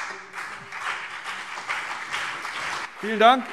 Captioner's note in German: Beifall BÜNDNIS 90/DIE GRÜNEN und CDU